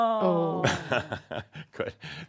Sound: chuckling

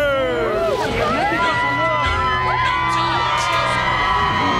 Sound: cheering

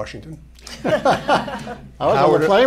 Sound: laughter

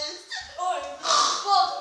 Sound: oinks

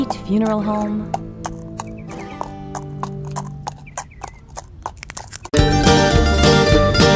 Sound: bright music continues; hoof steps falling; energetic Western music

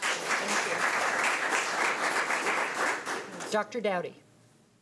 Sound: audience applauding

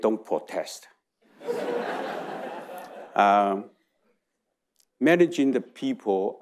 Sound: audience laughing

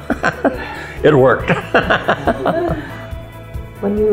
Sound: laughs

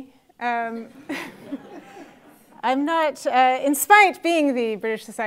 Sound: laugh

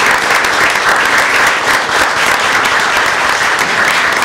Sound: applause

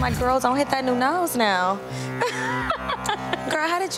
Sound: laughs

